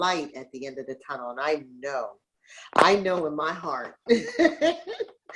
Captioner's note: laughs